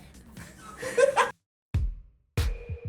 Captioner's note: laughing